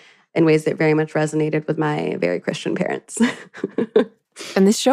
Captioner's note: chuckles